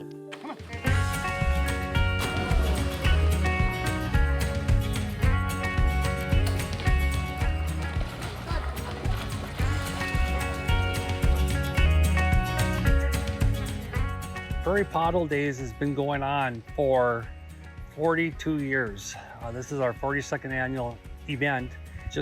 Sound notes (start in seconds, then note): 1.2 upbeat music; 2.5 water splashing; 3.7 upbeat music